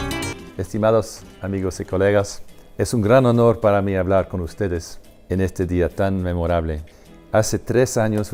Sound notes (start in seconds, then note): 0.7 speaking Spanish